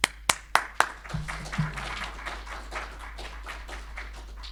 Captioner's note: audience applauding